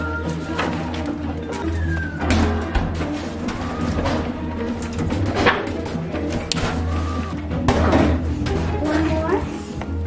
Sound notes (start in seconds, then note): 1.5 claw machine beeping